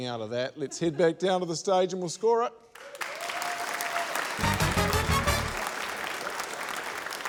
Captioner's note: cheering, applause